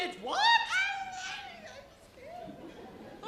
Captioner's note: mumbles; audience laughs